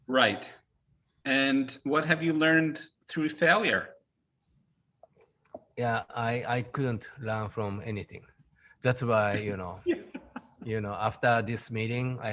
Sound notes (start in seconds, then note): 9.2 laughing